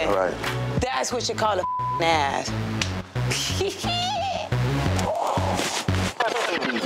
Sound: beep

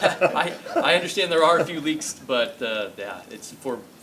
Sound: laughs

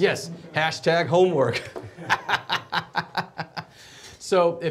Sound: laughs

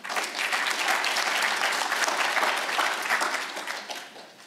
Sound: audience applauds

